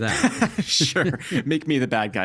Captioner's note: laughing